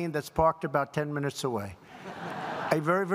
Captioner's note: laughter